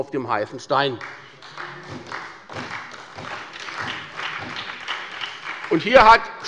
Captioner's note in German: Beifall bei der SPD